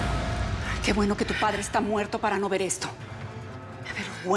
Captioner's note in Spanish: bofetada